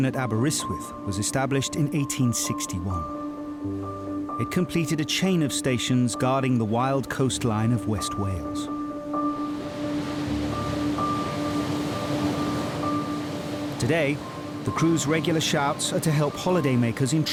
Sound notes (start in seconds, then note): 9.6 contemplative music; 9.6 waves crashing